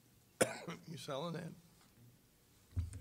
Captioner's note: coughing